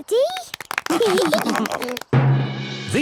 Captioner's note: clapping, laughing